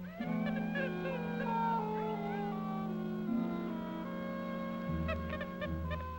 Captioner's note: mysterious music; Joe chattering